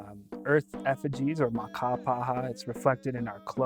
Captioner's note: speaking Dakota